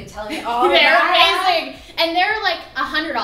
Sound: laughing

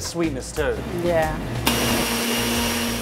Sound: blender on

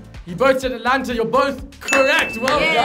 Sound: bell dings; clapping

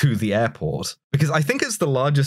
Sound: none

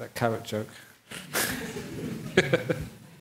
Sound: laughter

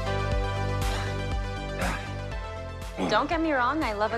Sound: upbeat music; breathes heavily

